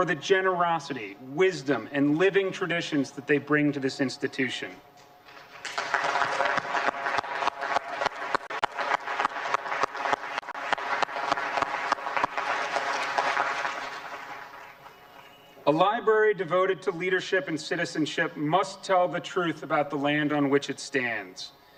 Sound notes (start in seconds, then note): 9.0 applause